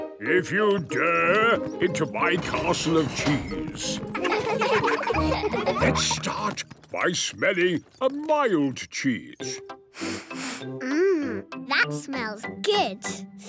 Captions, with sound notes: if you dare, into my Castle of Cheese! Let's start by smelling a mild cheese. - (sniffs) Mmm... That smells good.